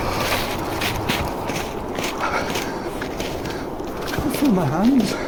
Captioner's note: footsteps in snow